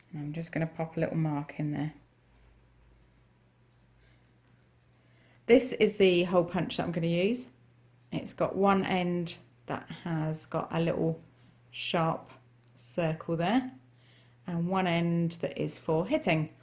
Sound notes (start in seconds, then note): none